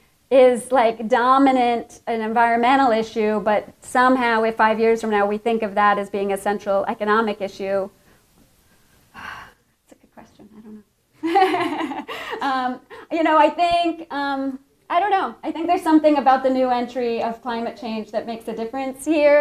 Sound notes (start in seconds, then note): 11.2 laughs